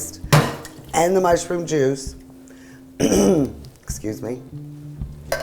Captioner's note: clears throat